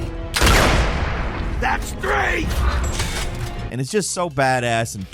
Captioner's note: gun firing